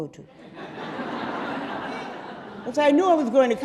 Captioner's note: audience laughing